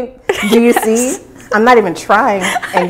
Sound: laughing

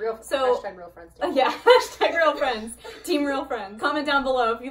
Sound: laughing

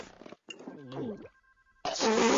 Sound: gulps

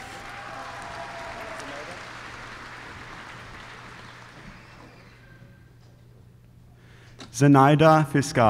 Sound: applause

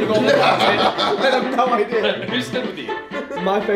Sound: laugh

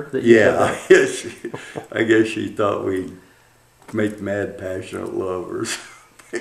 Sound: laughter

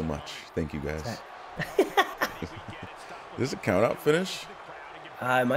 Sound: laugh

